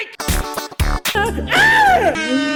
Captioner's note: scream